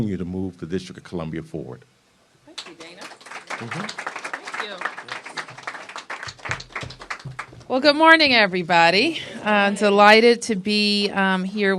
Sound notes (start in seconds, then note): 2.5 applause